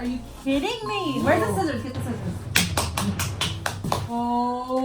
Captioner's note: claps loudly